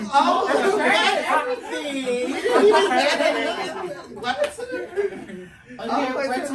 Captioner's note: everyone talking and laughing